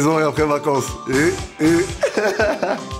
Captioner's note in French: Rires